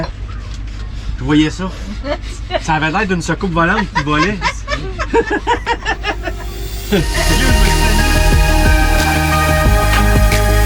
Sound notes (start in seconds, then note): 3.6 laughs; 7.6 inspiring music